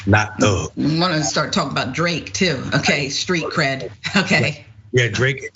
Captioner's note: laugh